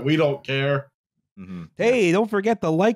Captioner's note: announcer voice